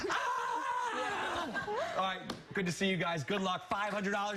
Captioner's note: laughter